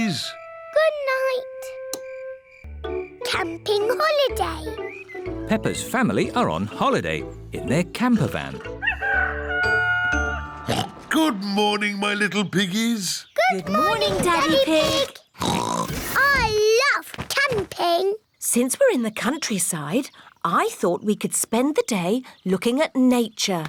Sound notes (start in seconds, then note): 8.2 daddy pig oinks; 8.8 rooster crowing; 15.4 oinks